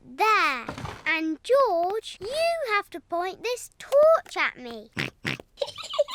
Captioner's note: snorts; giggling